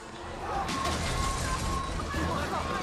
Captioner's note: alarm sounding